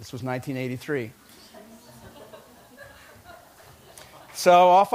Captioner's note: laughter